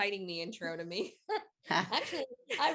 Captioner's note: chuckling